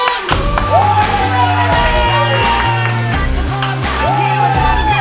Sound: cheering

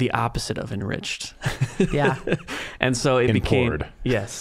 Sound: laughing

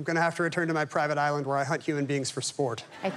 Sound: laughter

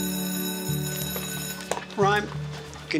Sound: bell ringing

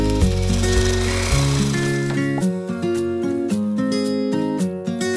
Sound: upbeat music; reel rolling

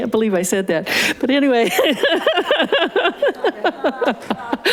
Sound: chuckling; laughing

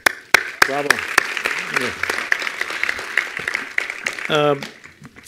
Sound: attendees applauding

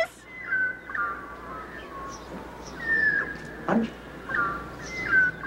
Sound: birds chirping

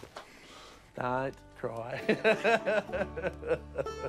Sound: laughs

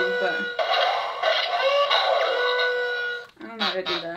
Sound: wall-e makes noises

